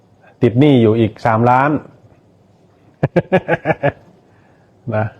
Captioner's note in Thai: เสียงหัวเราะ